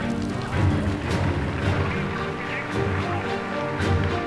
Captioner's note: Hitler speaking German